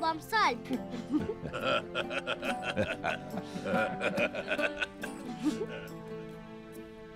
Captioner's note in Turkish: Gülme sesleri